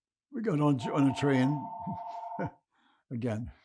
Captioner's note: phone ringing; laughing